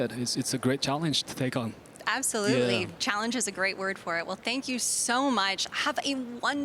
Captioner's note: none